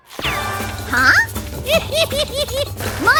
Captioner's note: laughing giddily